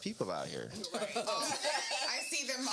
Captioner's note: laughing